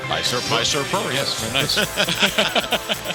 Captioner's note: laughter